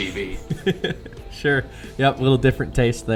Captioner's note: laughing